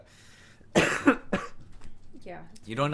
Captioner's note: coughs